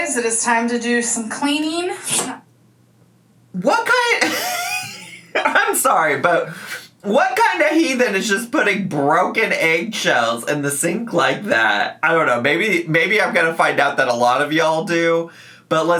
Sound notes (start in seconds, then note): 4.0 laughs